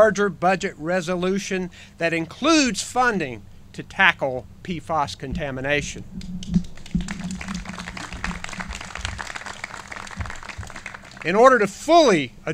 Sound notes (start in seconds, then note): 6.6 clapping